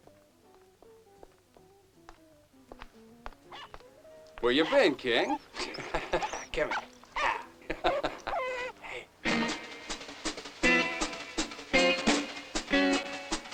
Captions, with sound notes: [DOG BARKING] Where you been, King? [LAUGHING] Come on. Hah. Hey. [WHIMSICAL MUSIC]